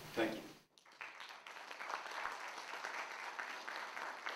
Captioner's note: applause